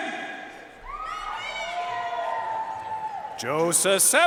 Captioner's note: audience cheering and applauding